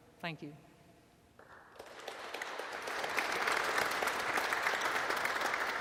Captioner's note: audience and panelists applauding